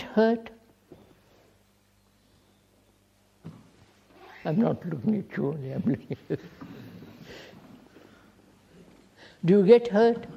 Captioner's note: laughs